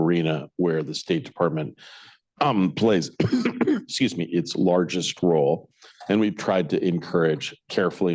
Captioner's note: coughs